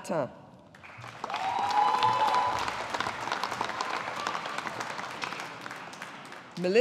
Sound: audience applauding

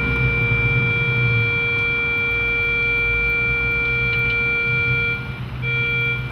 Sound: tone continues

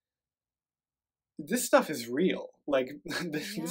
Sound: laughs

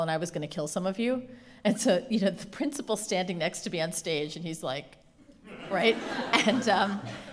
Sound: laughter

